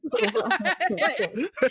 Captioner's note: laughing